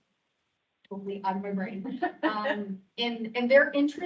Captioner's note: laughing